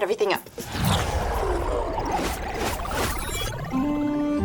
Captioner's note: warp noise; medieval music